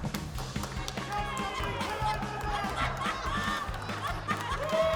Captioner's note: whooping, laughter; laughter